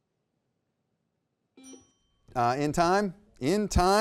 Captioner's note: buzzer beeps; timer chimes